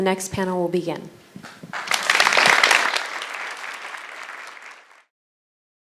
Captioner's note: applause